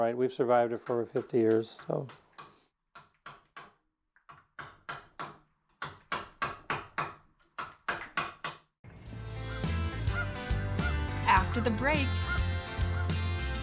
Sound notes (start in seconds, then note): 2.3 chisel tapping; 8.9 vibrant music